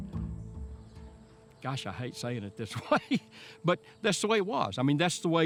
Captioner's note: laughs